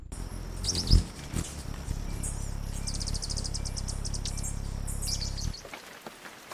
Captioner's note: birds chirping; birds singing; wings flapping; raindrops on leaves